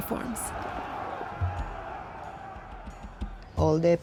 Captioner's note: shouting continues